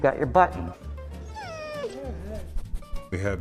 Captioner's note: whimpers